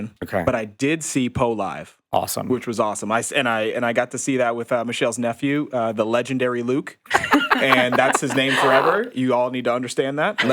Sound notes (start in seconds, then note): 7.0 podcasters laughing